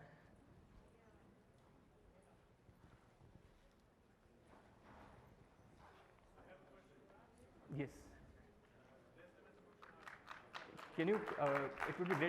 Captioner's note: applause